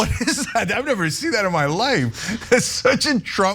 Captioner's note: laugh